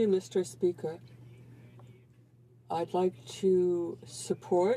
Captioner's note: speaking French